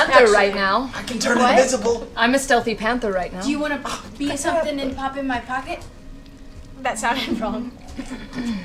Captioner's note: laughs